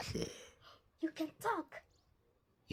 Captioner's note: gasp